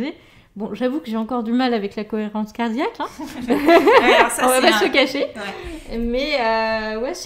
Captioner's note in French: rires